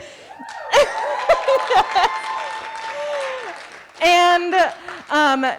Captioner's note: audience cheering